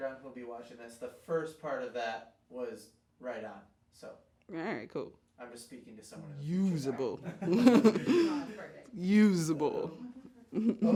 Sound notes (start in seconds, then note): 7.4 murmurs